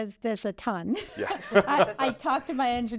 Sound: laughing

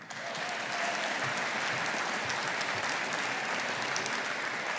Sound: audience applauding

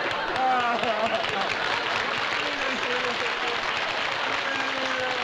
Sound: applause

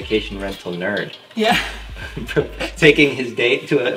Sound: laughing

